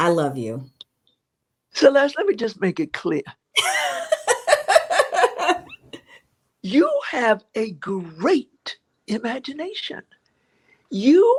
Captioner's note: laughter